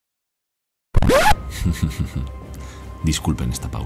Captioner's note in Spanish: Risas